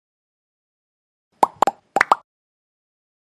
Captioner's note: sound effect: bubbles popping